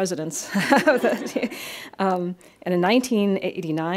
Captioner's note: laughs